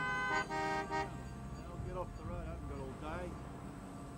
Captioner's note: car horns honk